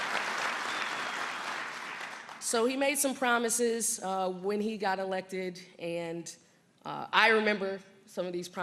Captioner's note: applause